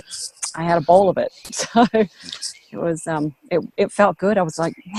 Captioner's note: laughs